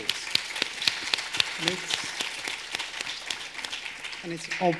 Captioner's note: audience applauding